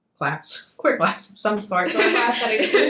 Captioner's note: chuckles